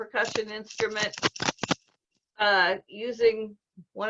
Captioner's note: bolts and washers shaking